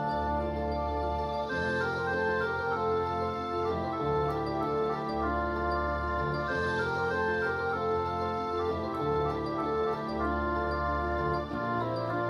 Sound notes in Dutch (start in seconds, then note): 0.8 keyboard